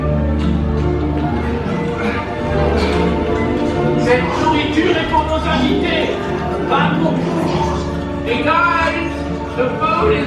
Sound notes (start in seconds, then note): 4.5 foreign language